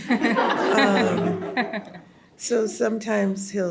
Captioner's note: audience laughs